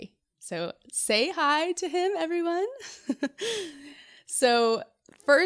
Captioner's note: giggles